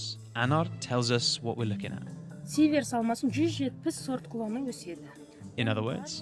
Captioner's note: speaking in Kazakh